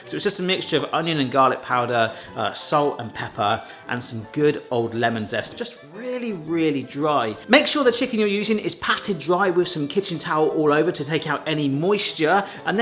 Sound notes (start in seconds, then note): none